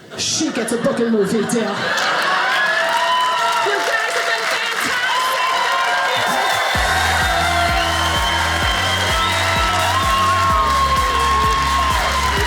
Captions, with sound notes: she gets a book and movie deal. (audience applauding) You guys have been fantastic! Thank you! (audience applauding)